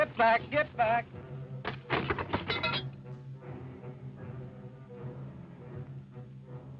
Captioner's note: jug thuds; chair clatter